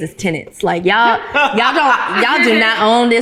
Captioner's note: ladies laughing